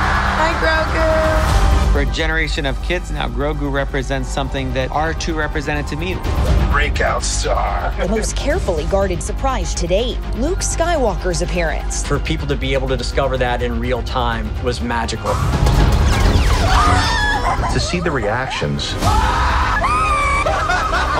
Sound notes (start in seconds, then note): 0.0 cheers; 16.6 screams; 19.0 screams; 20.2 laughter